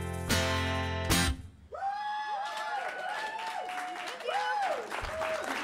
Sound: cheers and applause

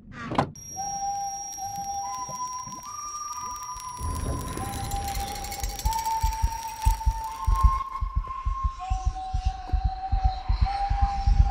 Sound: death Whistles

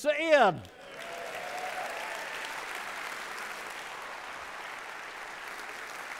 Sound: audience clapping and cheering

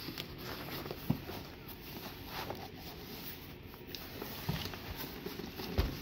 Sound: shuffles Box

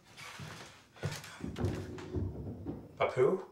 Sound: tumbling noises

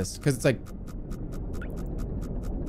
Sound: machine whirring

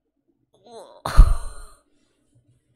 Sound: laughs

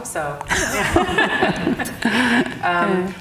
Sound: both laughing

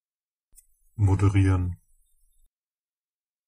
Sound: fast Pronunciation

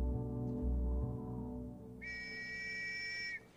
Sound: blows whistle

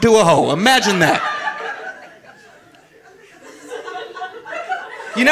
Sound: audience laughing

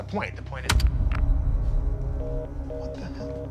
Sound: phone beeps

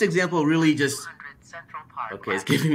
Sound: computer Voice

